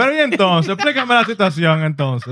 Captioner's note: speaking In Foreign Language